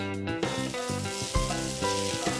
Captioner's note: sizzling off-screen